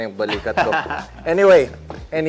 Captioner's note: laughs